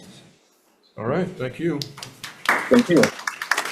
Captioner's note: hands clapping